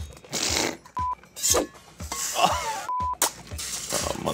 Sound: blowing raspberry

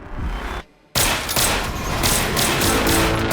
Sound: gunshots

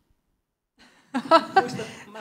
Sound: laughing

